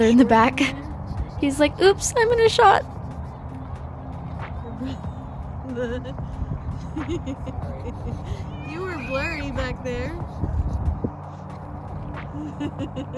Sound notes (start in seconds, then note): 2.3 mom laughs; 6.8 laughs